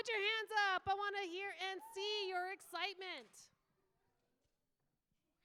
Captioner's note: applause